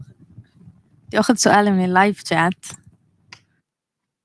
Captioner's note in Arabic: لغة أجنبية